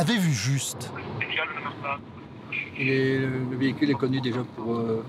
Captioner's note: French spoken audio